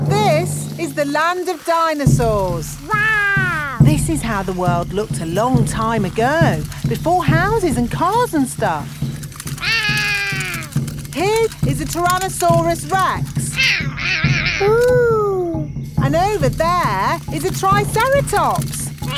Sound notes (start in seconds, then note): 9.6 roaring; 13.5 roaring